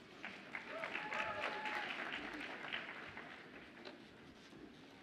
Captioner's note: audience applauds and cheers